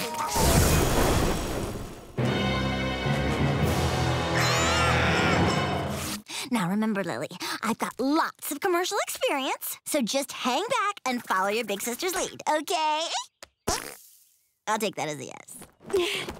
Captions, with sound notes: [screaming] Now, remember, Lily, I've got lots of commercial experience, so just hang back and follow your big sister's lead, okay? I'll take that as a yes.